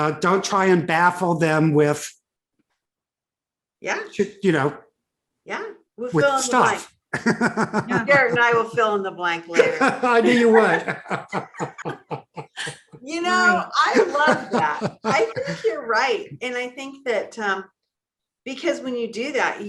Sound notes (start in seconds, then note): 7.1 laughs; 9.6 laugh